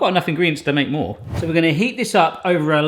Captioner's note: air whooshing